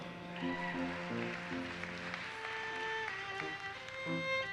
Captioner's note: audience cheers and applauses